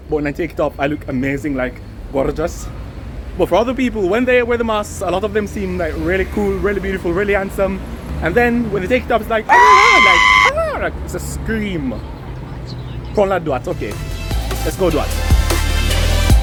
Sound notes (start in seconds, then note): 9.5 scream